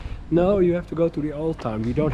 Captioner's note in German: murmelt